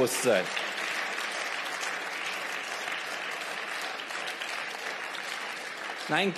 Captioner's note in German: Beifall